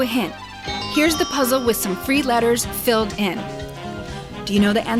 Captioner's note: chime